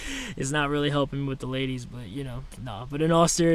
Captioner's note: laughs